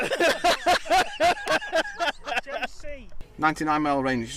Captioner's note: everyone laughs